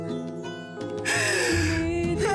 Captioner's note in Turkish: Ağlıyor